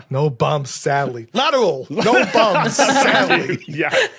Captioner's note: group laughing